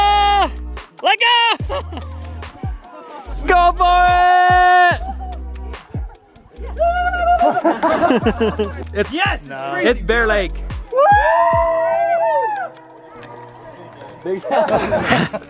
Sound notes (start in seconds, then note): 1.5 laughs; 6.7 everyone laughs; 6.7 yells; 10.9 cheering